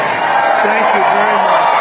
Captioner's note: applause